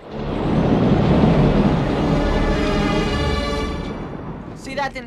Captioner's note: imitates earthquake